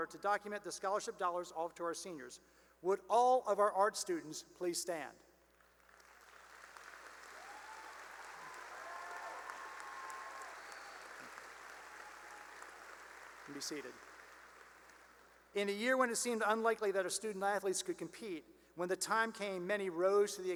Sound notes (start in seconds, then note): 5.9 cheering and applause; 14.8 applause